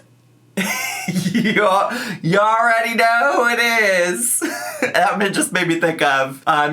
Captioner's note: laughs